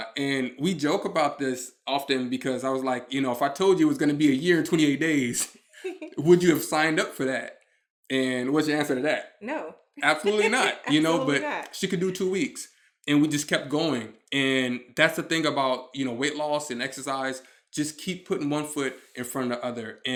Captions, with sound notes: And we joke about this often because I was like, "You know if I told you it was gonna be a year and 28 days, would you have signed up for that?" And what's your answer to that? - No. (chuckles) - Absolutely not. - Absolutely not. - But she could do two weeks and we just kept going. And that's the thing about weight loss and exercise. Just keep putting one foot in front of the other